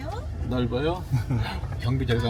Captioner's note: chuckles